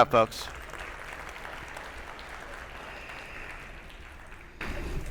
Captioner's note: attendees applauding